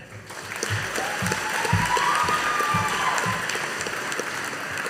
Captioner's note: audience applauding